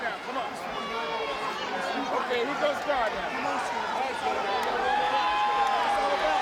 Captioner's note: people chattering indistinctly